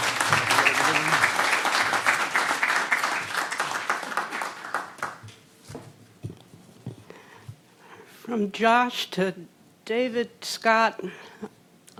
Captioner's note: applause